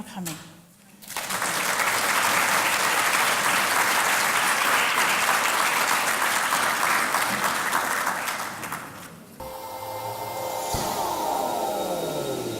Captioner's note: applause